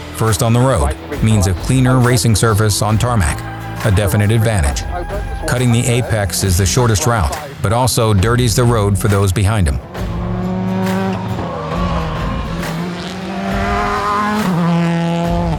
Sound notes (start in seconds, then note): 9.9 engine revving